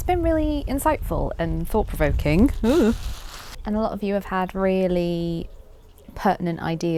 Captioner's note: wind blows